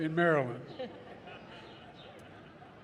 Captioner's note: laughter